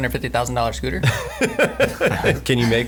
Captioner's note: laughing